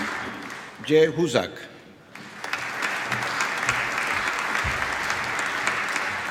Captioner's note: applause